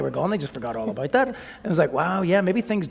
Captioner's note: chuckle